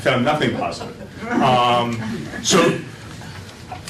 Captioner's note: laughter